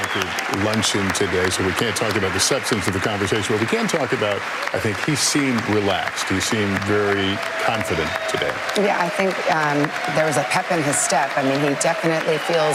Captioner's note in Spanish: aplausos